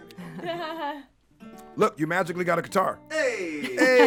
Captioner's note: laugh